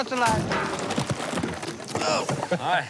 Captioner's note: chuckling